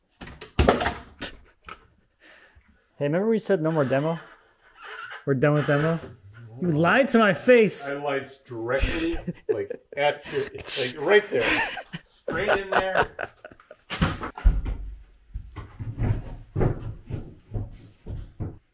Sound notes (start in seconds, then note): 0.6 board banging; 15.2 laughing